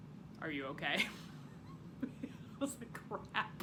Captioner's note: laughs